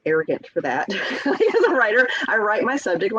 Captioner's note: chuckles